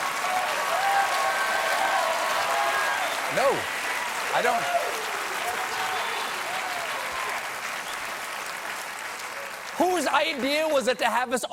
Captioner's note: cheers and applause